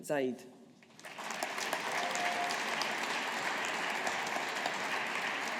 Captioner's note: audience applauding